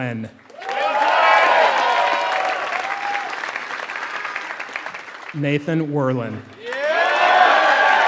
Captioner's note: applause